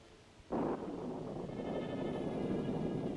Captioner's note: thunder rumbling; suspenseful music